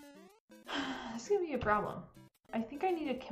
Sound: sigh

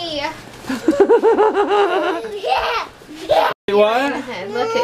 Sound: laughing

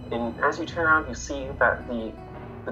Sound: none

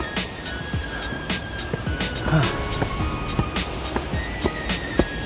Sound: suara nafas saya yang terengah-engah

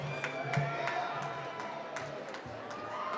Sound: applause

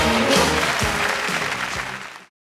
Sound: crowd applauding

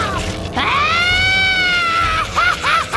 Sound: laughing evilly

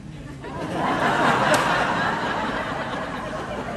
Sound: crowd cheers and laughs

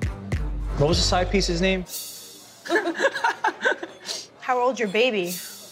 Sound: laughs

